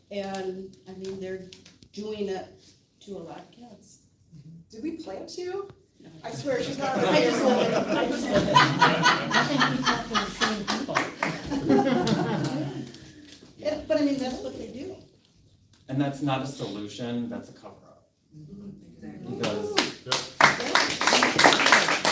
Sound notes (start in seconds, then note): 13.9 laughter